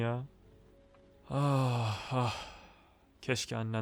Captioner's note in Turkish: üzgün şekilde